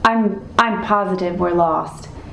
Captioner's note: none